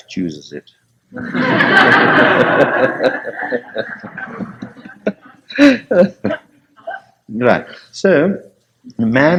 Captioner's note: laughter